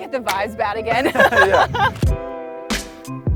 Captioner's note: laughs